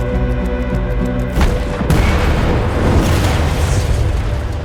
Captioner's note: explosion